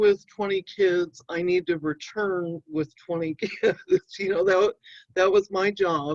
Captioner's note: chuckling